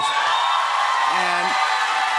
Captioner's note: cheers and applause